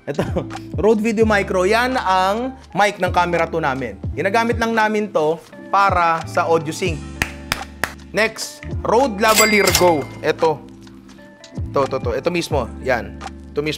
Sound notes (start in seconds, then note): 7.2 claps